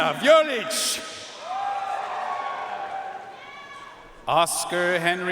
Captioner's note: audience cheering and applauding